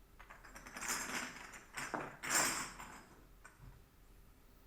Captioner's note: glass clinking